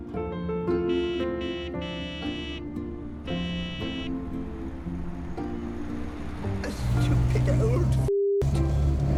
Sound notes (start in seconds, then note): 0.8 horn honking; 1.9 gentle music